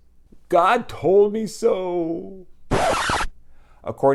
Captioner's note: record scratch